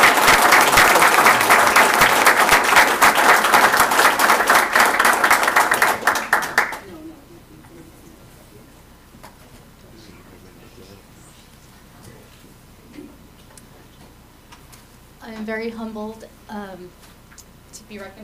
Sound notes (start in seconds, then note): 0.0 applause